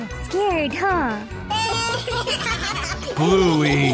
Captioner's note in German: Bluey und Bingo lachen heftig zusammen